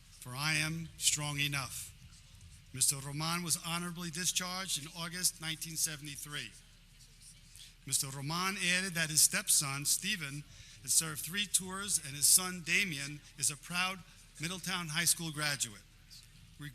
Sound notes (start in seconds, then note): none